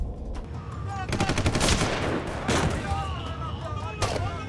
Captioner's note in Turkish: Silah sesleri